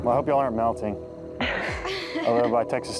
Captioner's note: contestants laughing